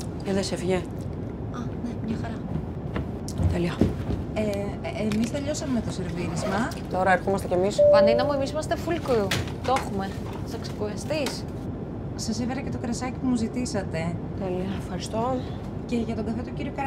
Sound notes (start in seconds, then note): 0.1 Vanina and flight attendant speaking foreign language; 7.8 airplane beeps; 10.2 Vanina and flight attendant speaking foreign language